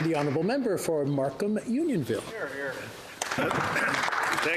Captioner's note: applause